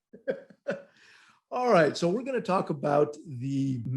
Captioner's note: laughing